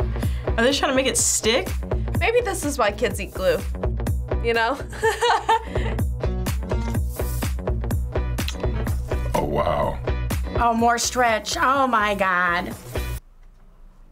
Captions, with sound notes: Are they trying to make it stick? - Maybe this is why kids eat glue, you know? (laughs) - Oh, wow. - Oh, more stretch. Oh my god.